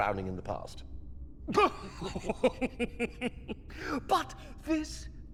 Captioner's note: laughing